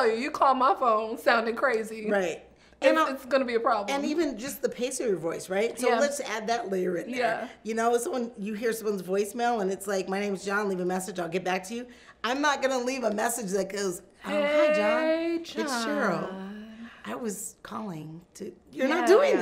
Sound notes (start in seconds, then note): none